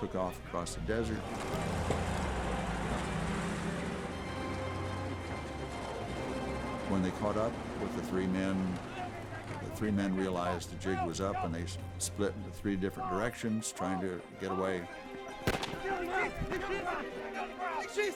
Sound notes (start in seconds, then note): 0.3 suspenseful music; 14.0 men shouting in German and English